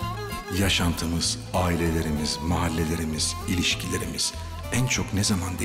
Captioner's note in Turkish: Ahmet dış ses